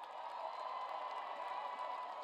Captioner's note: cheers and applause